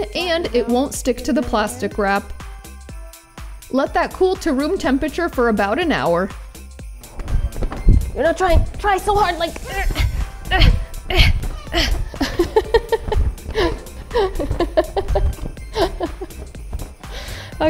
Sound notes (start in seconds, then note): 10.4 grunting; 11.0 laughing